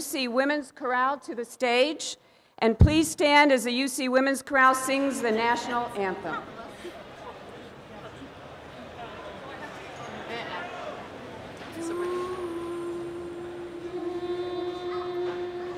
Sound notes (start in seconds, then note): 6.5 crowd murmurs; 11.7 choral music